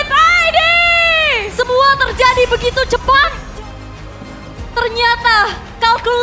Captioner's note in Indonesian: berteriak